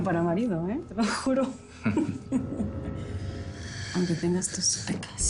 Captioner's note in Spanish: Risas